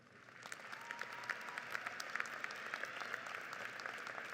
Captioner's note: audience applauds